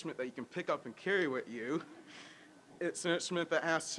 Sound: chuckling

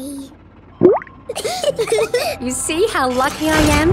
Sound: bubbles; laughing

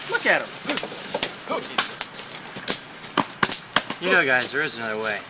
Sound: fire crackling

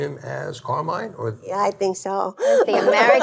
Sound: Jane laughing

